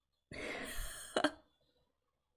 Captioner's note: laughs